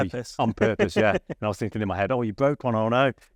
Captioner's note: laughs